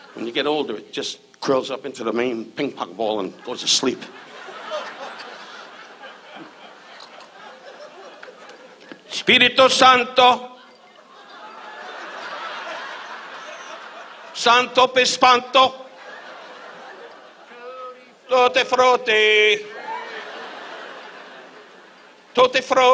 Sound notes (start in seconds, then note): 4.8 audience laughs; 9.5 Don speaks in Latin; 10.6 audience laughs; 14.6 Don speaks in Latin; 15.7 audience laughs